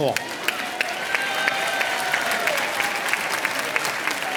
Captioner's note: applause